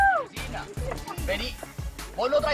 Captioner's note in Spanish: Exclamación